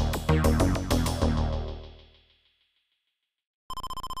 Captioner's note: text scroll noise